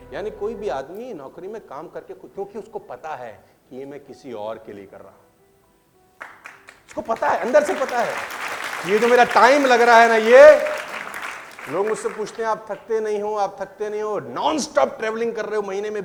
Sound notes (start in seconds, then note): 6.2 clapping